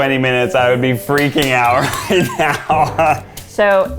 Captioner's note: laughs